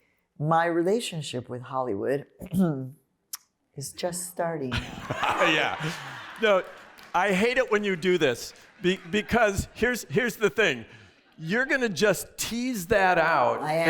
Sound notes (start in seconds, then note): 4.7 laughter